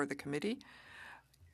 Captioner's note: speaking French